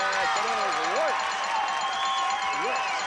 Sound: audience cheering

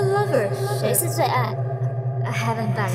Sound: speaks in Mandarin

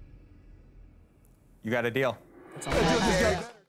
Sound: laughs

